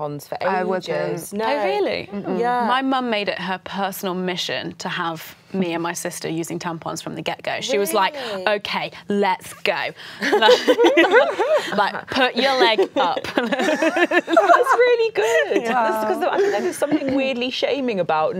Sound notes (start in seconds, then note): 10.2 laughing